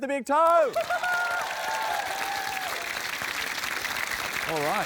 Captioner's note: cheering, applause